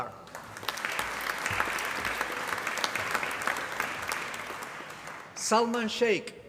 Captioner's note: applause